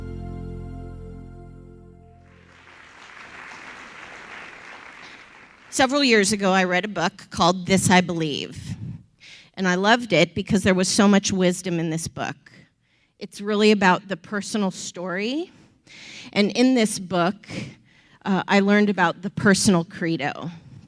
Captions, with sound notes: (audience clapping) - Several years ago I read a book called This I Believe. And I loved it because there was so much wisdom in this book. It's really about the personal story and in this book, I learned about the personal credo.